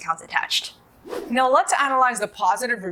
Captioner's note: air whooshing